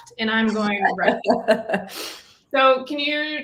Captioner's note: laughs